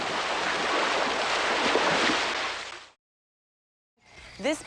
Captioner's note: water splashing